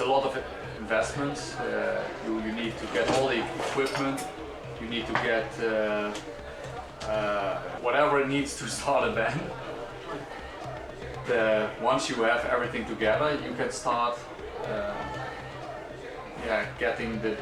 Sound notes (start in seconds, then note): 3.7 audience cheering and chanting